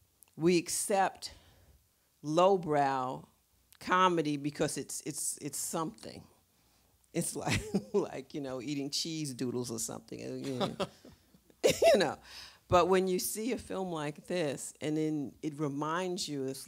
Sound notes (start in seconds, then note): 10.4 Dash laughs; 10.4 laughs